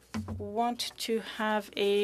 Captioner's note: speaking French